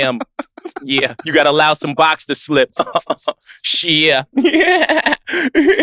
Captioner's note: laughs; laughs